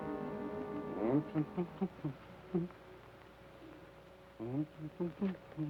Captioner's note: Joshua hums melodically